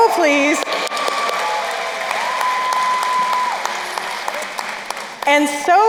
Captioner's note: crowd cheering and applauding